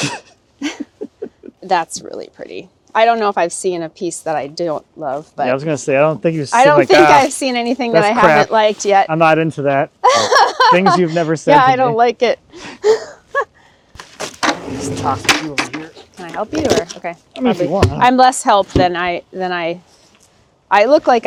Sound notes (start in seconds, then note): 0.6 chuckling; 10.1 laughing; 13.1 chuckles